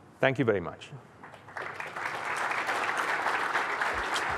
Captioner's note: applause